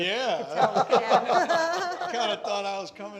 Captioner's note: all laughing